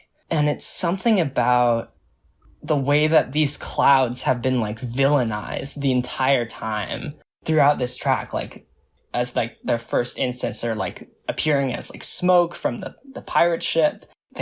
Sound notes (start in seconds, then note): none